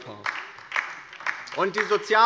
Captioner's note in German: Beifall bei der LINKEN